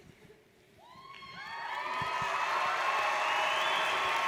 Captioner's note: audience cheers